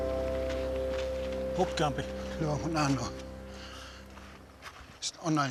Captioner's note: speaking Native language